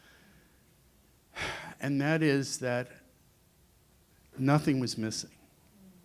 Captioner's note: exhales